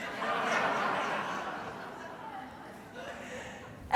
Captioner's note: audience laughing